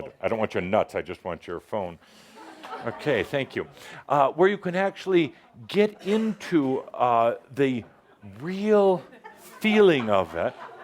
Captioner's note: laughter